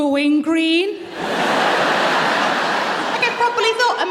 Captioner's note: laughter